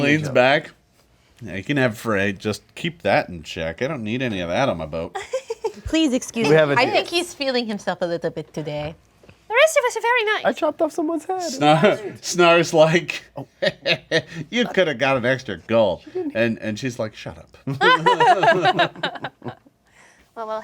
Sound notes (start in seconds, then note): 5.5 laughing; 13.6 laughs creepily; 17.7 laughing